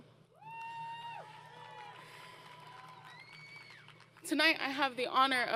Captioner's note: crowd Cheering